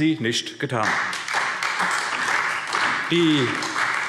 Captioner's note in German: Beifall SPD und Freie Demokraten